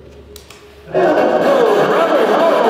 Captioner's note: white noise blaring